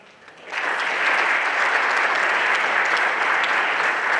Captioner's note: everyone applauding